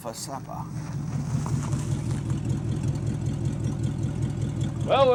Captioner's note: engine idling